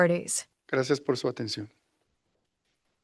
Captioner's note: non-english speech